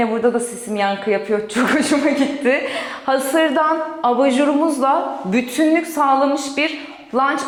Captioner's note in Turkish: kahkaha